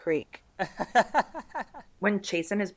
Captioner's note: laughs